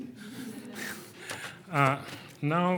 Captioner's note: laughing